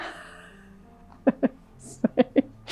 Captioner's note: laughs